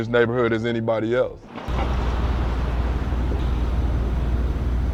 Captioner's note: sound of cars passing